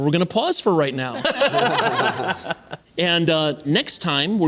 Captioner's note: laughter